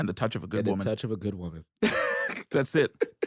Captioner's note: laughs